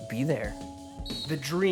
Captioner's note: whistle